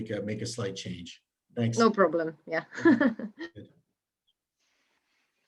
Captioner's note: laughs